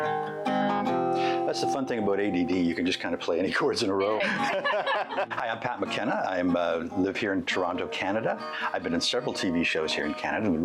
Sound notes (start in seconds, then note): 4.1 laughing